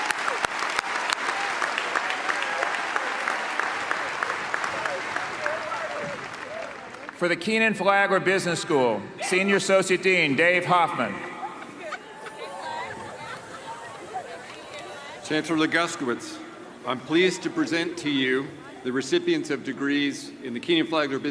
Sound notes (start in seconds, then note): 9.2 cheers and applause